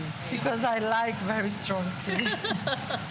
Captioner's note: laughs